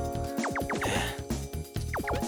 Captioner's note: sigh